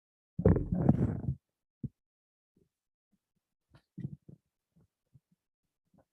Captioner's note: microphone Interference